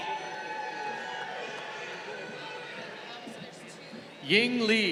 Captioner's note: crowd cheering